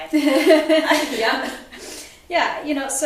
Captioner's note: laughs